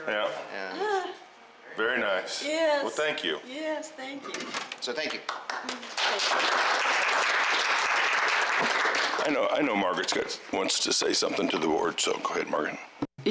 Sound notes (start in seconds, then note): 5.1 applause